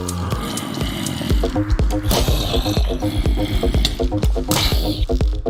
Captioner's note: growling